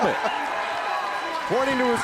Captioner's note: crowd cheering